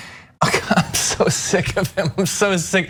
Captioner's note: laugh